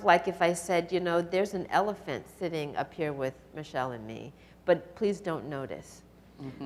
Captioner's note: chuckles